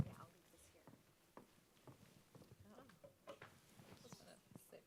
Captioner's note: presenters chattering